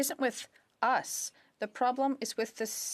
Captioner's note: speaking in French